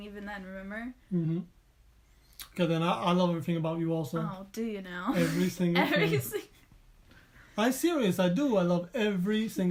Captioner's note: laughing